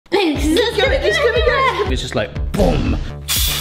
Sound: indistinct chatters

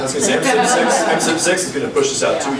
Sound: overlapping chattering

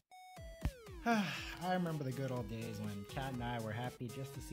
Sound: contented sigh

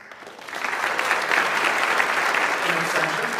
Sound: audience applauds

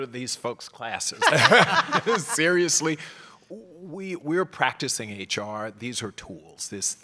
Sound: laugh

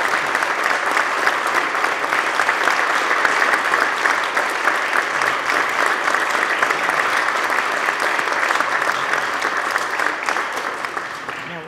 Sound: applause

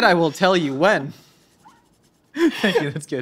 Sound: laughs

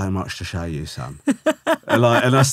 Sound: laughing

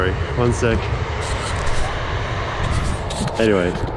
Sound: train passing

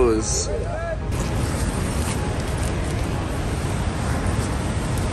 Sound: waterfall whooshing

